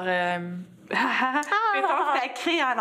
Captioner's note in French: rires